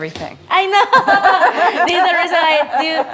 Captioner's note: laughter